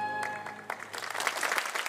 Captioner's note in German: Applaus